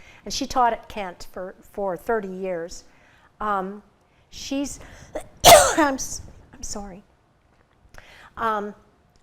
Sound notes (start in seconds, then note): 5.2 coughs